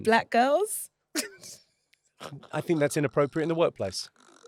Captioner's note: laughs